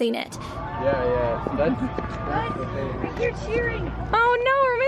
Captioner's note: crowd cheering distantly